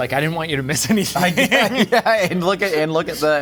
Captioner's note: laughing